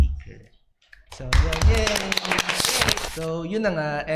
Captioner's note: applause